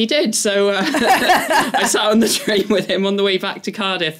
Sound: laugh

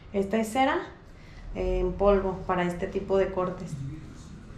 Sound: speaking in Spanish

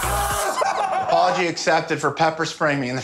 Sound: screams

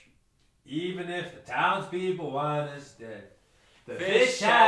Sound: Bigs, sing-songy

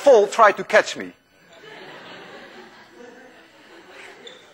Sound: class laughs

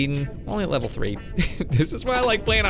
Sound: chuckles

